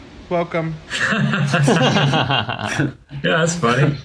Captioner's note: all laugh